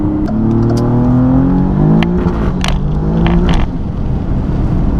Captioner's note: acceleration noises